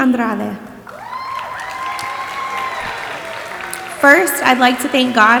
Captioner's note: audience applauding and cheering